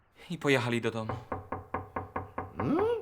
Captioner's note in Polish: pukanie